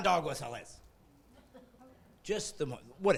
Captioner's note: laughing